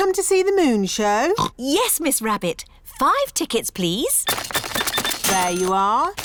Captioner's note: oinks